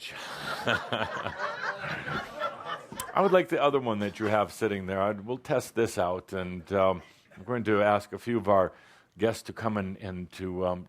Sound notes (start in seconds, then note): 0.1 chuckles and audience laughter